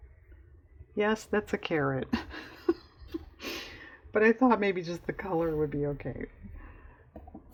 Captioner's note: laughs